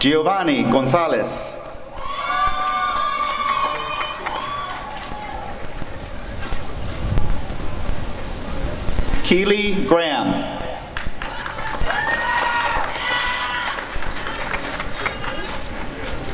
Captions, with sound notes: Jeovanny Gonzalez [applause and cheering] Keely Graham [applause and cheering]